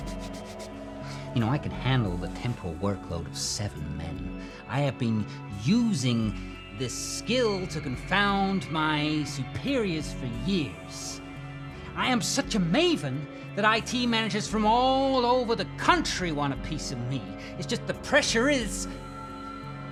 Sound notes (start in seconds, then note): 0.0 brushing shoes